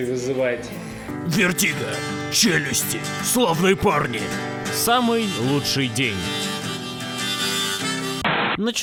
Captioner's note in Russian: пафосным голосом; простым голосом; помехи